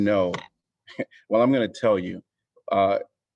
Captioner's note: laughter